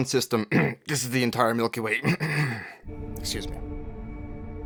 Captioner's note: cough